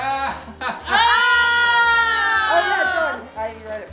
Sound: family screaming

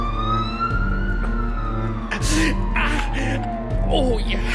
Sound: struggling noises

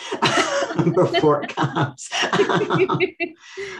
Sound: laughs

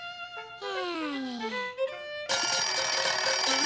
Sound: clock ringing

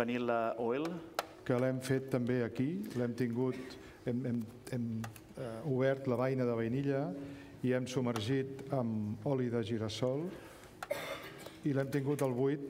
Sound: speaking catalan

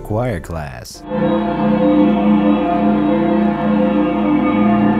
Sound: eerie ringing

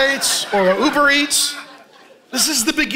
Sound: congregation laughing

